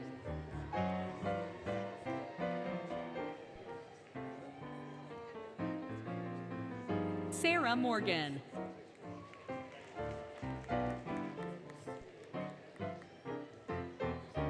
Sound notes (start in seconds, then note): 7.4 applause, Music